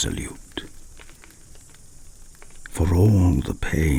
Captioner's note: fire crackling and night insect buzzing